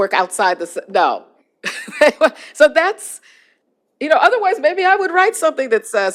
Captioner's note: laughter